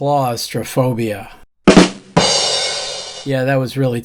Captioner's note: bang